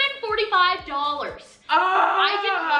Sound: groans

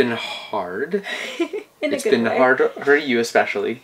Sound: laughs

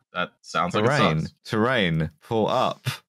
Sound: robotic voice

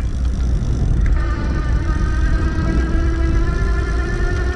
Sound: clanking; motor whirring

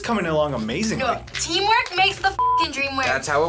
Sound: beep

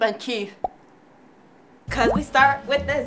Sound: pop sound

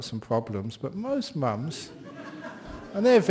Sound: laughter

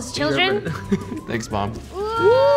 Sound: laughs

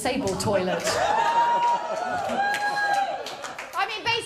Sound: laughter

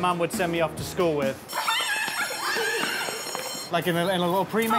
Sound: school bell ringing

